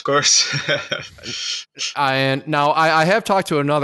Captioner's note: laughs